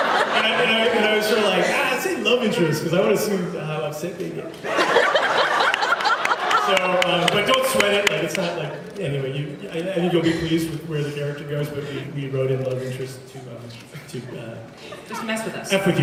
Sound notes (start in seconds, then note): 4.7 laughs